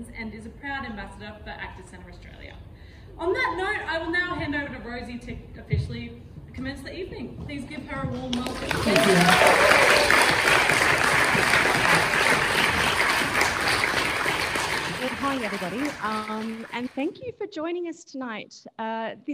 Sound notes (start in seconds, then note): 9.3 audience applauding; 9.8 audience cheering